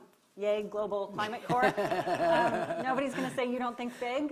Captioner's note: laughs